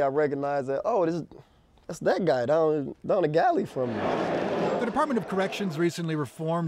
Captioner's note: laughter